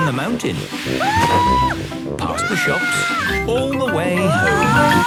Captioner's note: screaming; exclaiming and grunting